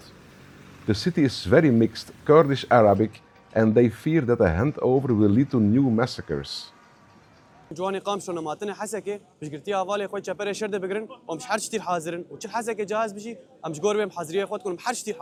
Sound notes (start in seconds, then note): 6.9 in Kurdish